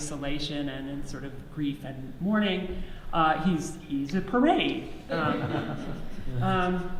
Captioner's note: audience laughs